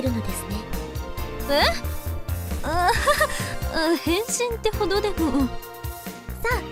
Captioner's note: awkward laugh